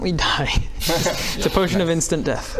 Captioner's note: laughs??